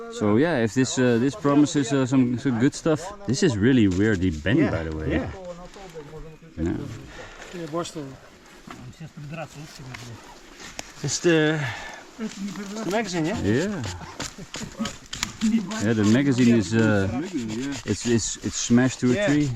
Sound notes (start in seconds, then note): 6.7 group chattering